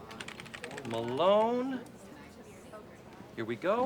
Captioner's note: typing